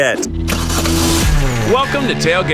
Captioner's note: engine starts